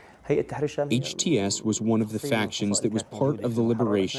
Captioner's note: through translator